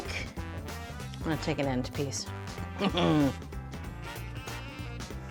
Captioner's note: laughing; light music continues